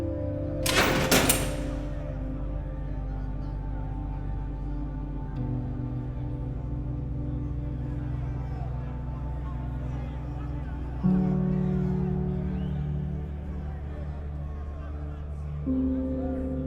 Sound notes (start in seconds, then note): 0.6 door rattling; 2.7 muffled shouting over expressive electronic music